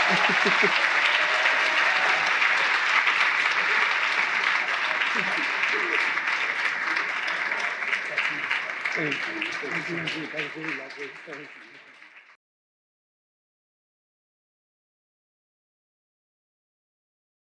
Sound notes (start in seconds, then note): 0.0 laughing; 2.0 attendees cheering; 2.0 attendees clapping hands; 6.7 attendees cheering; 6.7 attendees clapping hands